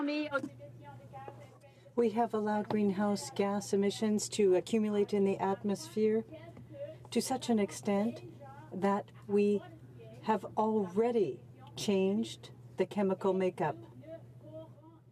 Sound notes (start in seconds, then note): 6.6 speaking French